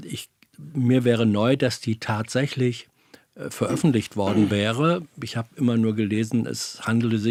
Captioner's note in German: räuspern